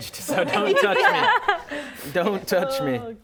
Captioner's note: laughter